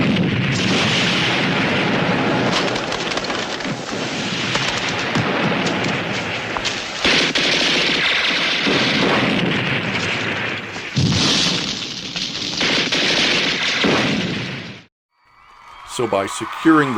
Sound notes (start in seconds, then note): 0.3 machine gun firing; 2.7 boom; 4.3 explosions and gunfire; 13.9 fire crackling